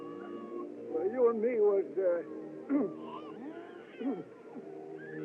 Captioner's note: clears Throat; baby Crying